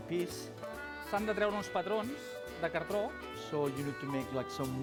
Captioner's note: non-english speech